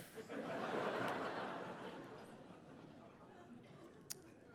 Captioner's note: audience laughing